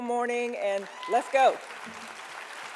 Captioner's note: audience applauding